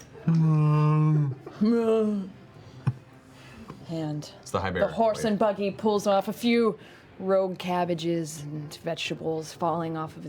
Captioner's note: moans